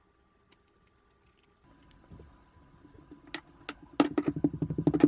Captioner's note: warning tapping sound may be loud